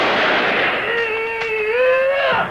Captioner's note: gun clicks